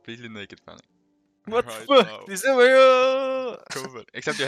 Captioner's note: excited noises